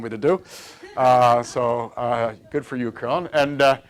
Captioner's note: laughter